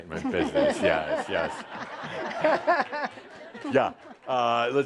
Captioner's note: laughter